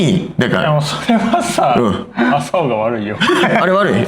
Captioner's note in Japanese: 笑い